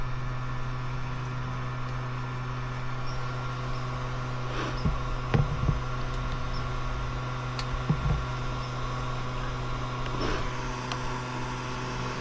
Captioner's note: engine revving